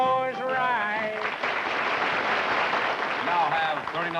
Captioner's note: applause